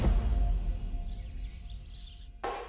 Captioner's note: birds chirping